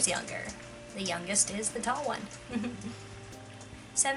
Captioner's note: laugh